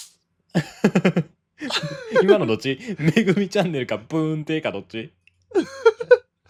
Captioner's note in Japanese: 笑い